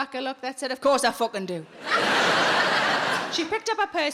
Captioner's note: audience laughing